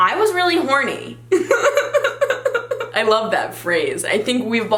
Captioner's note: laughs